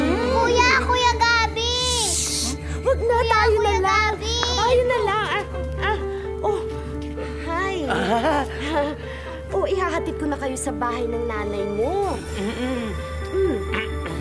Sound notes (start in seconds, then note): 1.7 shushes; 7.9 chuckling